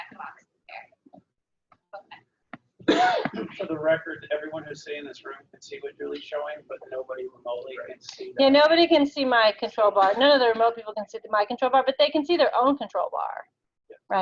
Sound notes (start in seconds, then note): 2.8 mic garbling